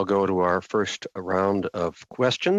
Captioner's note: speaking French